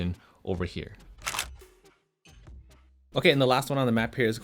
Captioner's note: camera clicks